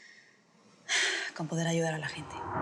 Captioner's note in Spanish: Suspiros